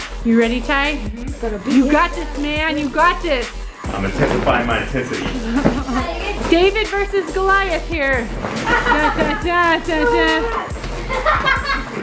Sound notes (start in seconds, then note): 1.4 murmurs; 8.4 laughs